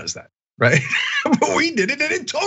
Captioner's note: laugh